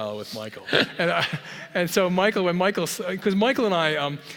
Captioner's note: laugh